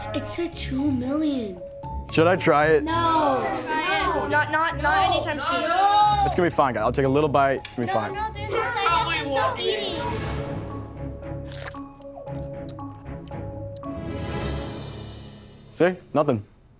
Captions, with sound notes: It said two million! - Should I try it? - No! - Not anytime soon! - No! It's gonna be fine, guys, I'll take a little bite, it's gonna be fine. No, no, there's a sign that says no eating! [crunching] See, nothing.